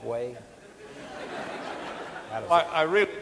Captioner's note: audience laughing